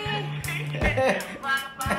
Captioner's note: laughing